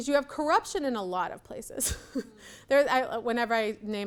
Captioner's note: laughs